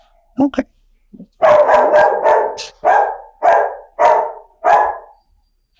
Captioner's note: dog barking in background